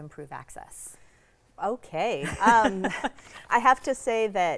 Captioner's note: laughs